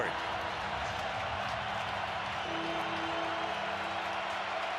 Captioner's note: cheering